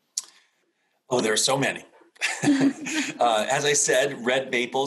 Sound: both laughing

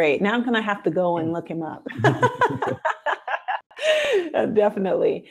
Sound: laughs

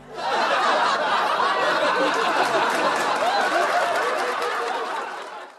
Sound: laughter

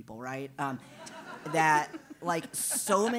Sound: laugh

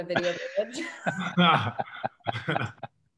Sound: all laugh

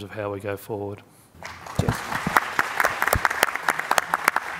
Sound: applause

